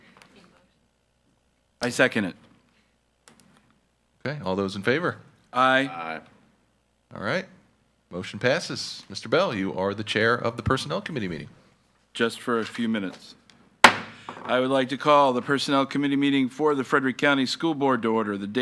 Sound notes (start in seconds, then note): 13.8 gavel banging